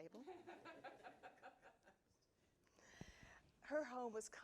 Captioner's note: audience laughing